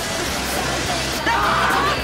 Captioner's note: screaming